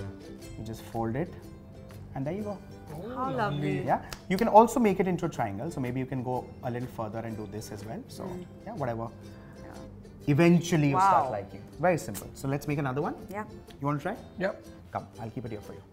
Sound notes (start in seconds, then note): none